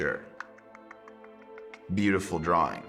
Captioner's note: clicking tongue rapidly